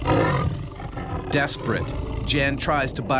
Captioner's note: tiger growling; voiceover